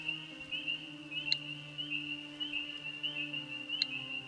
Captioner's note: frogs calling